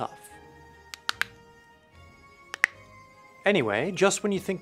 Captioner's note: cracking knuckles